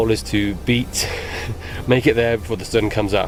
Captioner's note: laughs